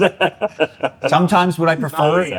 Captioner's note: laughter